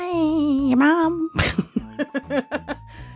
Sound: laughs

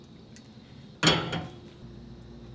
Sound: clank

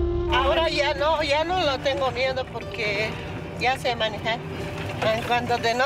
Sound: gentle music; speaking in foreign language

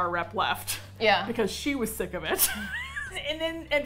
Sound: laughs

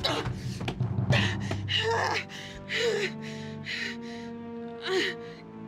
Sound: Alex breathing heavily

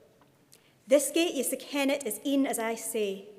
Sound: speaking in Scots

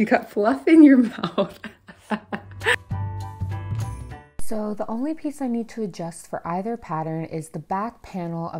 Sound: laughs

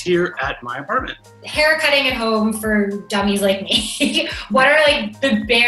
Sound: laughs

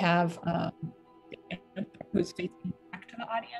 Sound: audio distortion

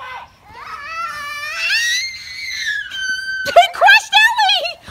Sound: screams

